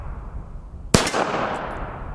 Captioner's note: pistol fires